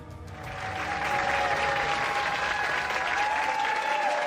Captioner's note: audience cheering